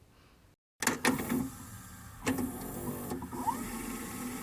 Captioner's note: whirring VHS noises